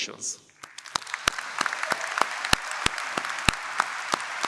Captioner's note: applause